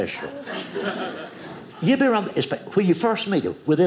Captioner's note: audience laughing